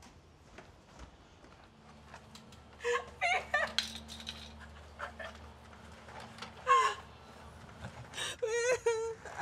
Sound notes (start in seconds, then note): 4.8 crying out in pain